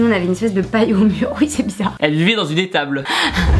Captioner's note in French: Rires